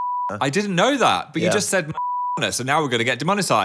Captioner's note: beep; beep